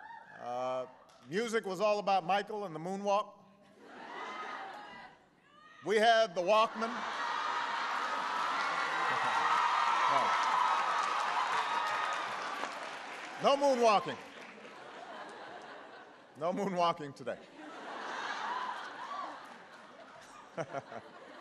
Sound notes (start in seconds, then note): 6.5 laughter; 13.1 laughter